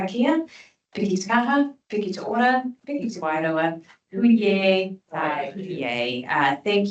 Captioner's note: speaking te reo Māori